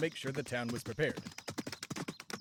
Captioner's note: carriage fades